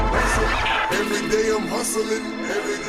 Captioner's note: record scratching